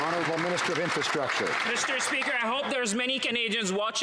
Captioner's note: some Applause